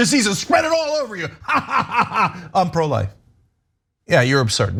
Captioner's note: laugh